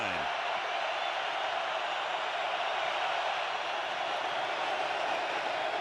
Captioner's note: crowd cheering